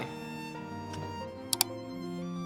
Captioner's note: click